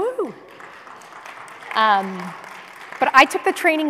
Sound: applause

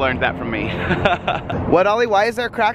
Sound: laughs

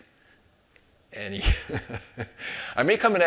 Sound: chuckles

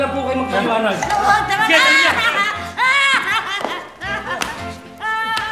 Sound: wailing

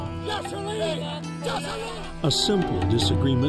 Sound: shouting

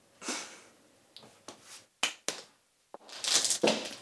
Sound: snickering

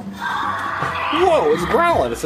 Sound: dinosaur growls

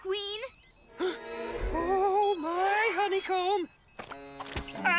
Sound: gasps

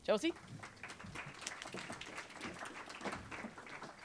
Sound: applause

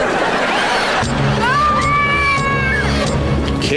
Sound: screaming

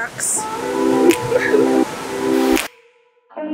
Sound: laughs

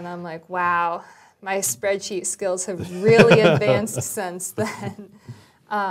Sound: laugh

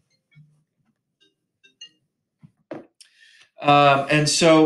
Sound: cell phone chimes

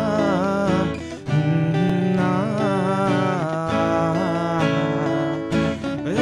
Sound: humming

